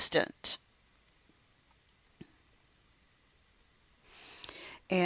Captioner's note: silent